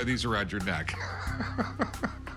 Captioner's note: laughs